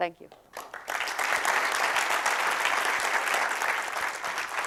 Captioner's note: applause